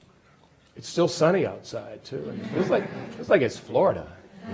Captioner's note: audience laughs